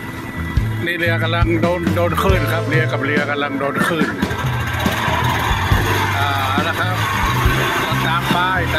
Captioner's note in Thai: ปรบมือ